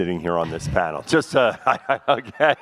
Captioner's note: laughs